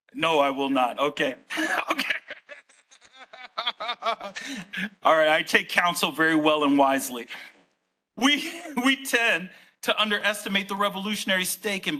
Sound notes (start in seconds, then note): 1.5 laughing